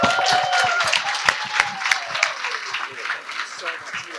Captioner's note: cheers and applause